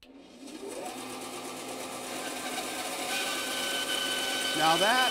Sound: saw whirring

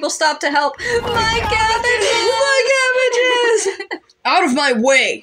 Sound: laugh

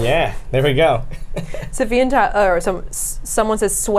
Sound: laughs

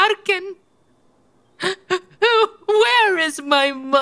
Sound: sobbing

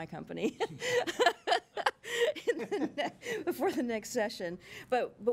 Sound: chuckling

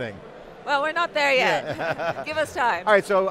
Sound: laughing

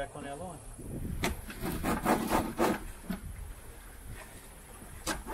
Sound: line winding

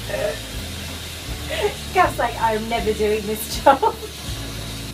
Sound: laughs

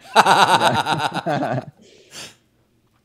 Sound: laughs

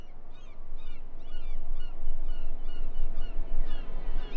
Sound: seagulls cawing

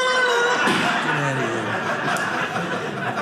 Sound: audience laughing

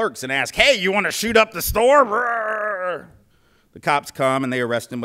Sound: redneck voice

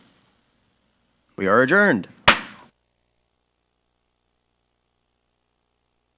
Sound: gavel thumping

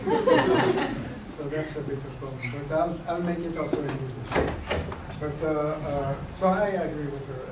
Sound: laugher

